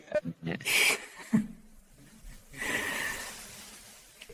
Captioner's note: chuckles